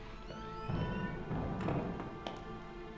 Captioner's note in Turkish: Kapı gıcırtısı sesi; Kapı kapanma sesi